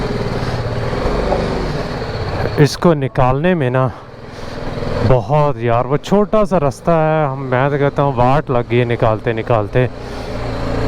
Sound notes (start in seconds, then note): 3.6 motorcycle